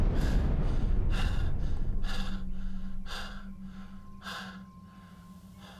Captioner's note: panting